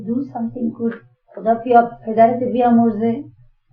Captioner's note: speaking in Farsi